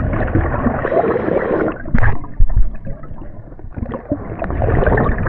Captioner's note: water sloshing